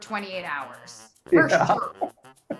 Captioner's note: laughing